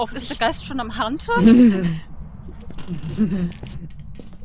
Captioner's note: giggle